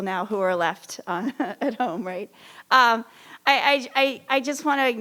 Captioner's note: laughs